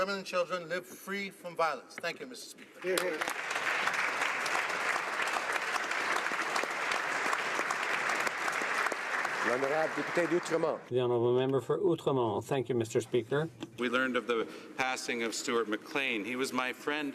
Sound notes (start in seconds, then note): 6.6 applause